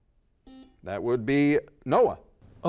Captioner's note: buzzer dings